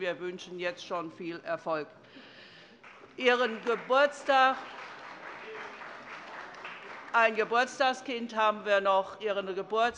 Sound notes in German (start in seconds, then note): 2.8 Beifall bei der CDU und der FDP